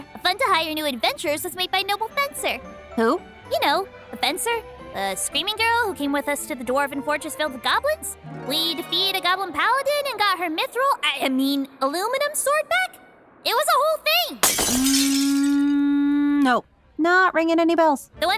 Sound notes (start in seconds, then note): 3.1 upbeat string music; 14.4 glass shattering